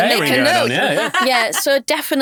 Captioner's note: chuckles